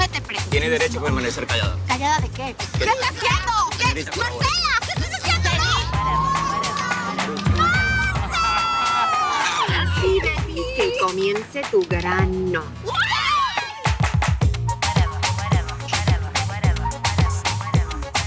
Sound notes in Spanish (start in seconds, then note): 12.8 Gritos